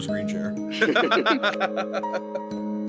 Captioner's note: laugh